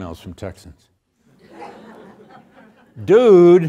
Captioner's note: audience laughing